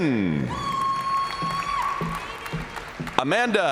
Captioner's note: audience cheering